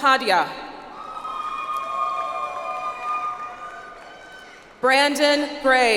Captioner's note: audience applauds